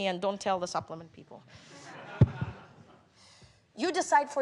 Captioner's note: laughter